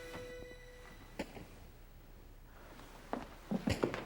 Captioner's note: footsteps